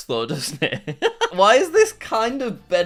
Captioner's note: laughs